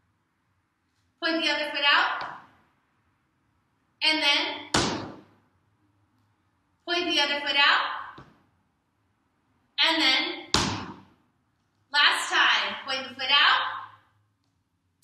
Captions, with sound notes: Point the other foot out. And then.... *Small Stomp* Point the other foot out. And then *Small Stomp*. Last time. Point the foot out